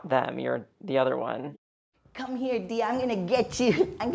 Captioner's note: soundbite of archived recording